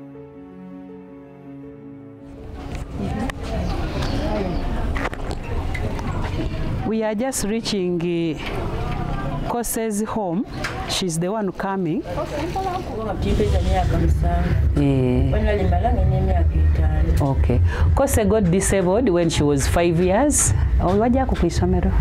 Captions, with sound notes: [wheels rolling on dirt road] We are just reaching Kose's home. She's the one coming. Kose got disabled when she was five years.